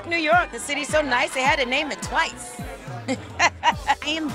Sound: laughs

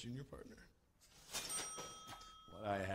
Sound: register dings

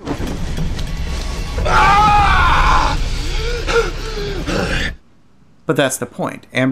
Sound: screaming

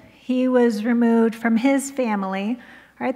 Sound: none

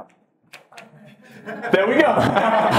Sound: laughs

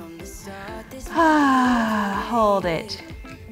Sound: sighs

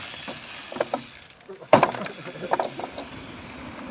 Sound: board creaking

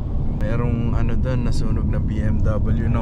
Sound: car

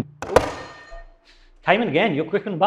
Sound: buzzer ringing

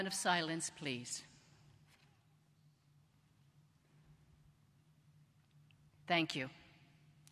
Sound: moment of silence

